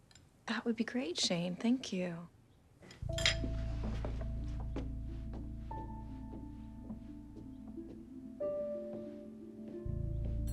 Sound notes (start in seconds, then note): 3.0 footstep